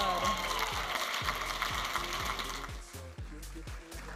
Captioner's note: audience applauding and cheering